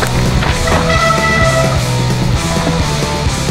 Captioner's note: breaks Squeak